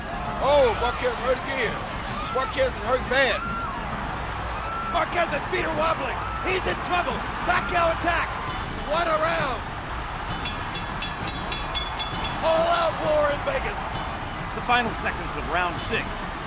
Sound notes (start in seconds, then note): 10.4 bell rings